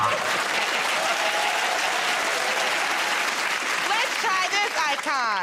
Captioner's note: cheers and applause; laughter